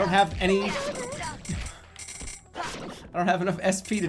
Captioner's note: chuckling